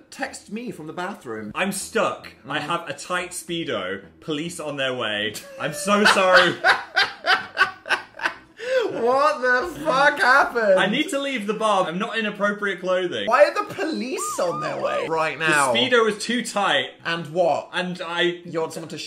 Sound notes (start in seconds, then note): 5.3 Dan laughing